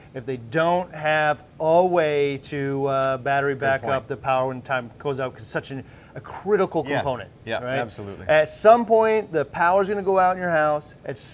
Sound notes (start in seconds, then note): 4.7 voice muffled